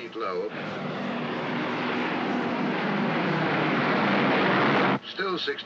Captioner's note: aircraft roars overhead